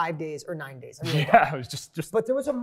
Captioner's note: laughs